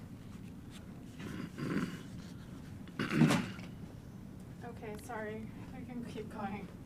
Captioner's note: clears throat